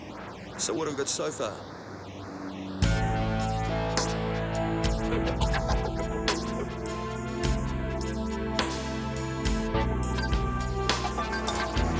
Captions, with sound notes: - So, what have we got so far? (suspenseful music) (laughing)